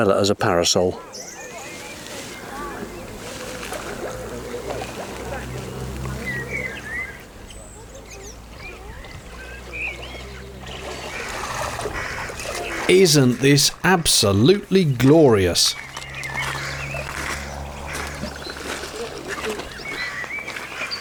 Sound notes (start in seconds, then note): 2.1 background noises of people; 7.1 birdsong; 17.3 footsteps on gravel and birdsong